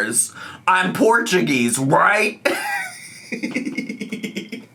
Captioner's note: laughs